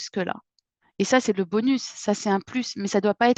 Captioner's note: speaking the language